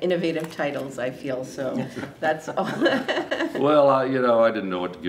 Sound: laughs

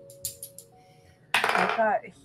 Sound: dice rolling

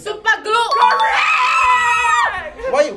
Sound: cheering

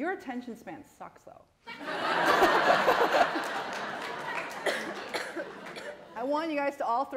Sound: laughter

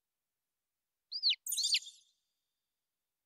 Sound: chirps

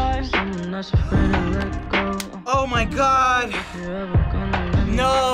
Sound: gasps and claps

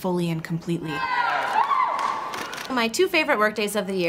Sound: cheering

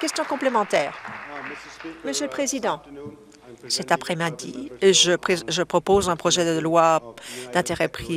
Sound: applause

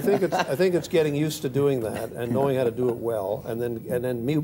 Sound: laughter

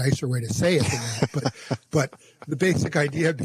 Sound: laughs

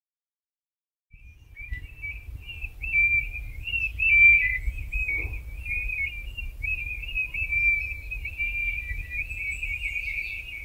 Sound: singing birds

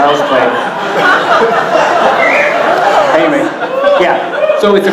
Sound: audience laughing very hard

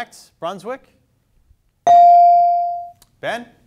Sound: bell dings

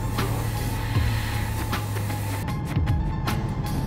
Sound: drilling

